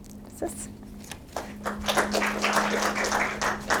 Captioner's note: applause